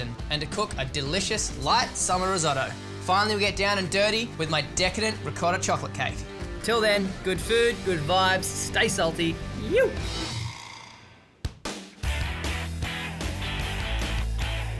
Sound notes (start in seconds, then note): 9.6 yelps; 12.0 upbeat music